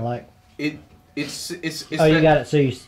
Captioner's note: stammering